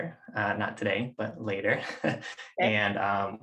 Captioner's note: laughs